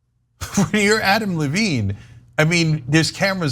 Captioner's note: laugh